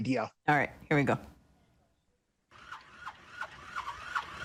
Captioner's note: engine revving